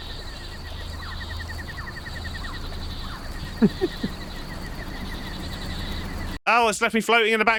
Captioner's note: jungle sounds